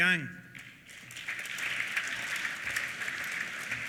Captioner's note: applause